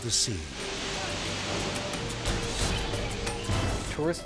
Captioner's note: water whooshing; people shouting